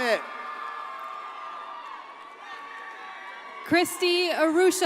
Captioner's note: audience cheers and applauds